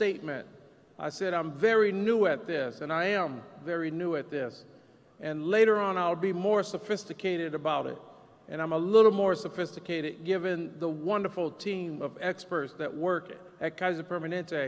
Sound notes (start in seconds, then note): none